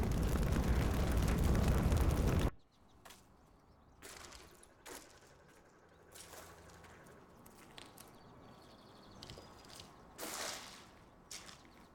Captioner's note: fire roaring